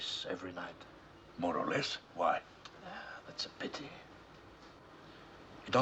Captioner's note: sighing